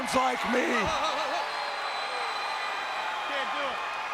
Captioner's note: audience cheering